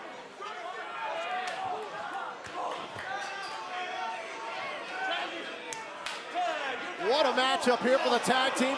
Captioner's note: crowd chatter